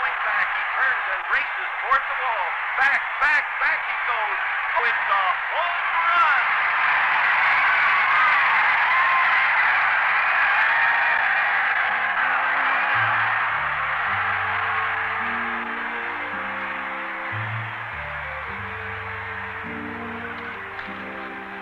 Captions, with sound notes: Roberts on the 25. What a race... Back he goes. [ APPLAUSE AND UPROAR ] [ EMOTIONAL MUSIC ]